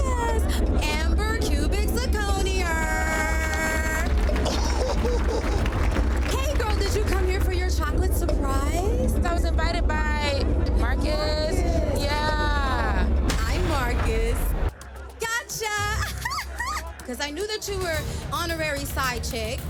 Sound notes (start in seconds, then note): 3.4 crowd cheers